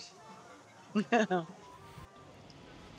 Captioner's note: chuckles